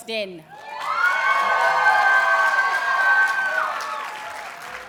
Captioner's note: audience cheers and applauds